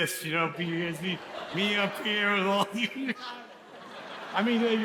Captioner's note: audience laughs